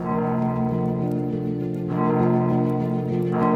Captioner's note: campana sonando